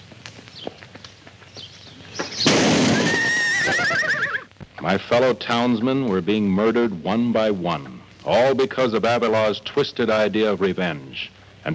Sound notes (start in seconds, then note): 2.4 gun fires; 2.8 horse neighs